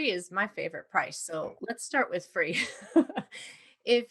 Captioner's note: laughs